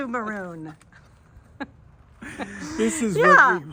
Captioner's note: laughing